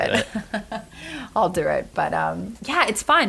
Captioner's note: laughter